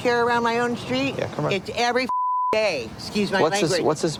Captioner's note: beep